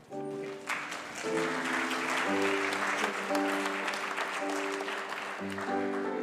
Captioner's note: gentle music; congregation applauds